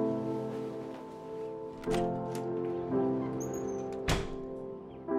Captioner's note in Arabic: الباب يفتح ويغلق